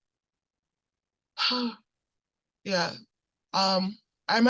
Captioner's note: sigh